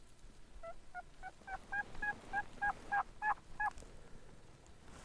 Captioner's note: turkey calling louder